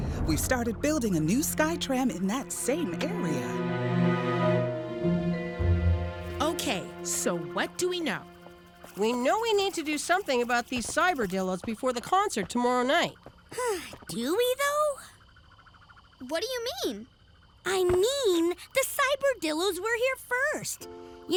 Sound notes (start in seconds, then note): 13.7 sighs